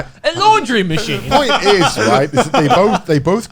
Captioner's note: laughing